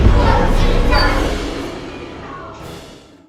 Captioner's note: evil chants coming from speaker